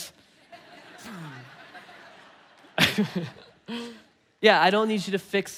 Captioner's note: congregation laughing; laughing